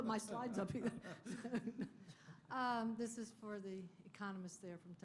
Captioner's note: laughter